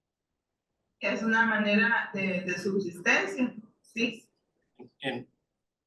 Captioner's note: speaking in foreign language